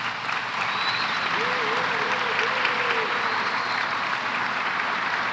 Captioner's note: applause